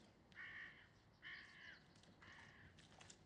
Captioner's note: bird squawks